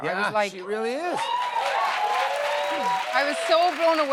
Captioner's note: cheers and applause